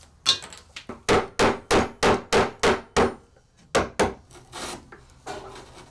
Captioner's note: gentle hammering; wood scraping